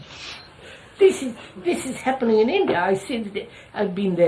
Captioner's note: laughs